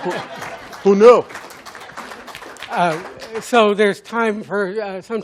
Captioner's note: applause